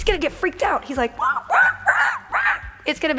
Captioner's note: monkey sounds